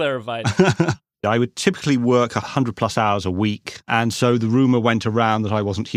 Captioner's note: laughs